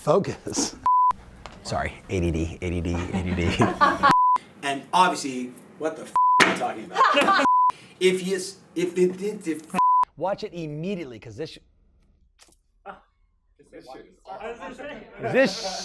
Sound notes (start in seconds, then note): 0.9 beep; 2.9 laughter; 4.1 beep; 6.9 laughter; 7.4 beep; 8.8 stammering; 12.5 laughter